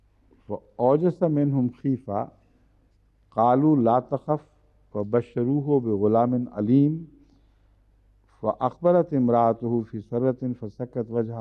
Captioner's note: Arabic